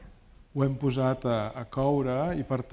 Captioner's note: speaking spanish